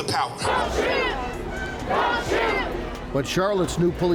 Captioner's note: crowd